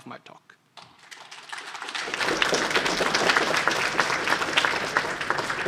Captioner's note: applause